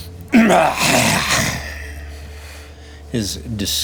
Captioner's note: intense growling